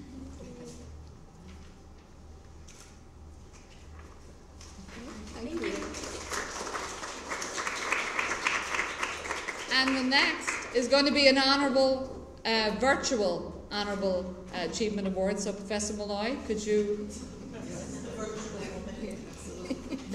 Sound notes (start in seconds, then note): 5.0 applause